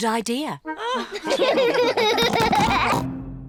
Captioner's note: all laugh